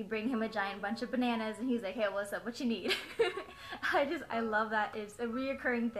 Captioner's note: laugh